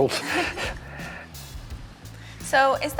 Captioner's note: laughing